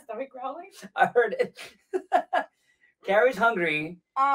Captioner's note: laughs